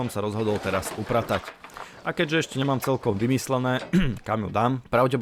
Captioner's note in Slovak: odkašľanie